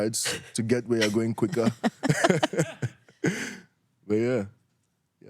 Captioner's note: laughs